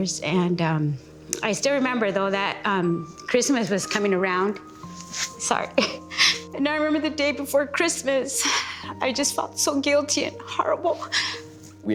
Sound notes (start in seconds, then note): 5.8 chuckling; 8.5 sighs; 11.0 sniffles